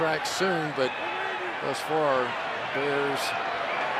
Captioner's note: whistle blows